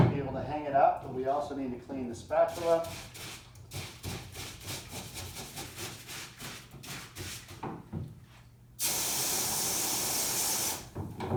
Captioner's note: cleaning noises